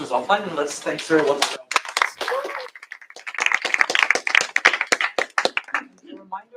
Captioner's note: applause